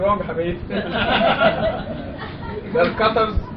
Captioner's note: laughter